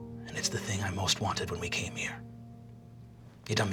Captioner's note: none